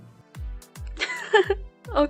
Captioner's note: laughs